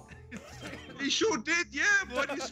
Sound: laugh

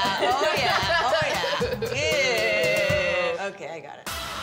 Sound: all chuckle

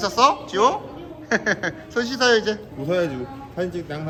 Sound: laughing

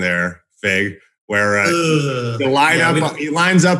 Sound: groans

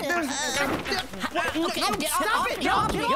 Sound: all grunting

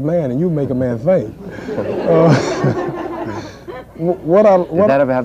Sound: laughter

